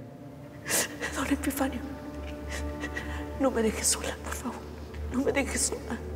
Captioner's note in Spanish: Sollozos